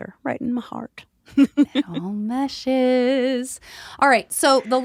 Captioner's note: chuckles